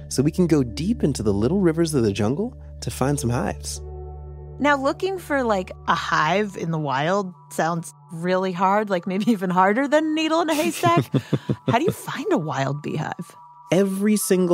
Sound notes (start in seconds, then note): 10.5 chuckles heartily